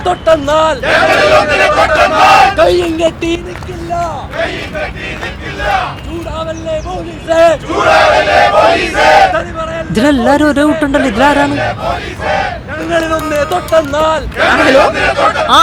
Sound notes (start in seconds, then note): 7.5 protesters Sloganeering